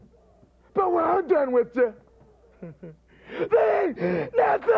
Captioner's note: laughs